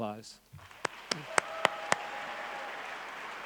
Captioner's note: clapping